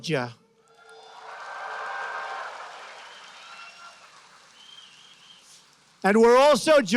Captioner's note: applause